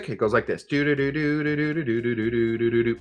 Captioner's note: humming